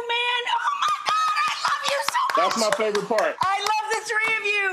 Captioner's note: excited laughing